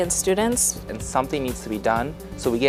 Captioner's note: voiceover